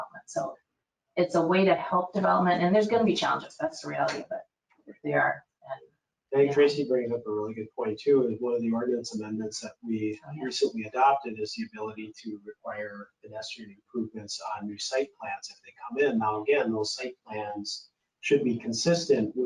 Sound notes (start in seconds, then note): 5.1 speaking faintly